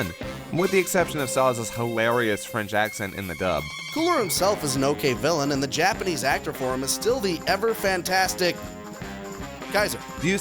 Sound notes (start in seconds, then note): none